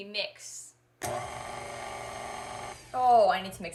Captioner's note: whirring